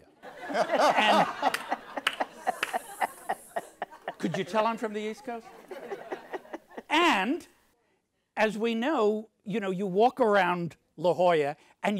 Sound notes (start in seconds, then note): 0.1 audience laughs; 5.1 laughs